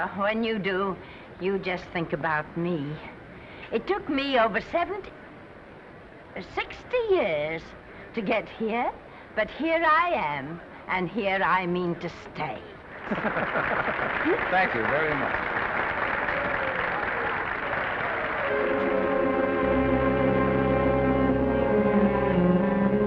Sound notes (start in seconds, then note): 13.0 men laughing; 13.0 audience applauding; 18.3 somber music